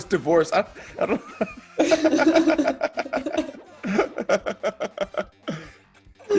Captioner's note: laugh